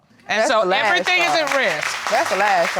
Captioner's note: crowd clapping